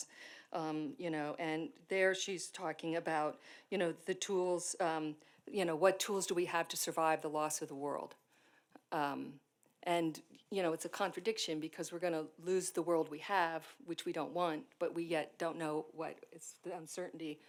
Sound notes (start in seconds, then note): none